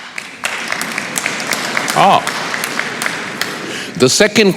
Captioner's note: applause